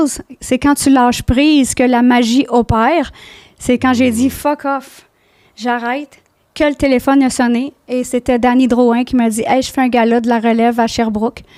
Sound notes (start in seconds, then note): 0.3 in french; 5.7 in french